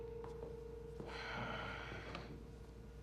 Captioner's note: Jason sighs